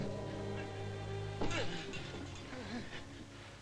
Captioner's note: groaning